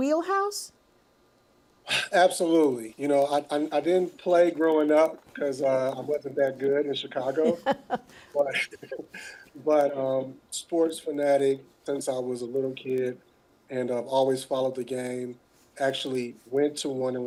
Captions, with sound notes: So, was this project right in your wheelhouse? [sighing] Absolutely, you know, I-- I didn't play growing up, because I wasn't that good in Chicago. But... but sports fanatic since I was a little kid, and I've always followed the game.